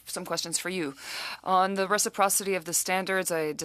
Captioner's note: speaking French